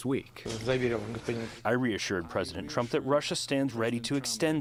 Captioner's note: through translator